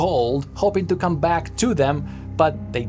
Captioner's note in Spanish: none